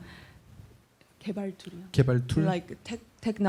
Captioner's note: speaking korean